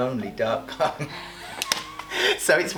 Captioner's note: laughing